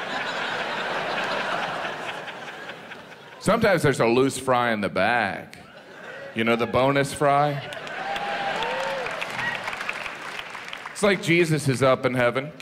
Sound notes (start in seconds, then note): 0.0 audience laughs; 8.3 audience cheers